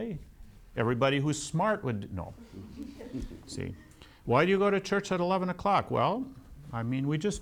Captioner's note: laughter